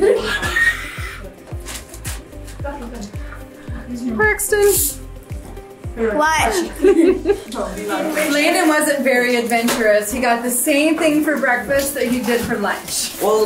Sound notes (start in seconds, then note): 0.3 upbeat music; 6.6 laughs